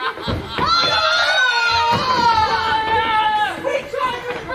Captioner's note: The Watch yells